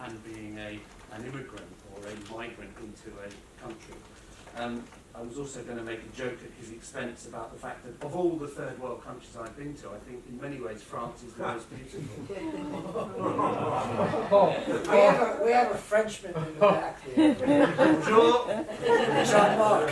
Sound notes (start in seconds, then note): 12.0 laughter; 17.1 laughter